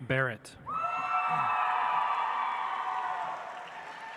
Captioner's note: audience applauds